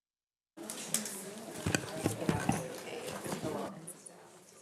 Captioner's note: light chatter